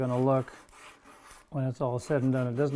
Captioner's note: sandpaper scraping